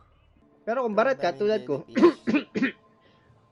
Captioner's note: ehem